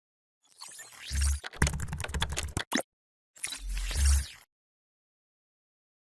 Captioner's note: electronic dinging and typewriter